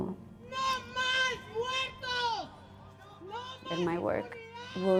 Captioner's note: speaking in Spanish